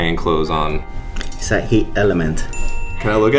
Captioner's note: ding